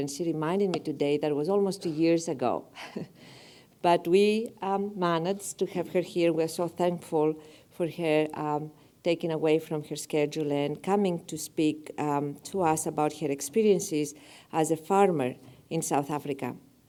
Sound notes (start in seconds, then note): 2.7 laugh